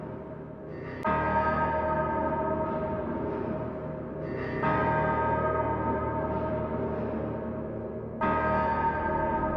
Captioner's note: distortion noises increase in volume, the bell continues to toll